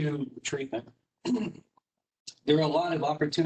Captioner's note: clears throat